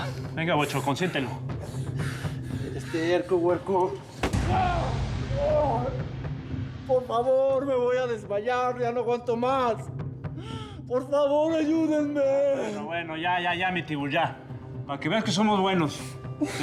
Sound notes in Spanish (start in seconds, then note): 4.5 gritos